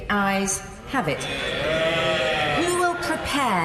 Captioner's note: cheers